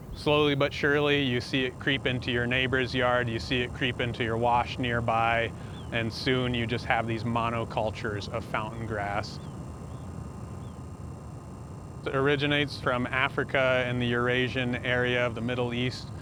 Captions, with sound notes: Slowly but surely you see it creep into your neighbor's yard, you see it creep into your wash nearby, and soon you just have these monocultures of fountain grass. [ BIRDS CHIRPING ] It originates from Africa in the Eurasian area of the Middle East.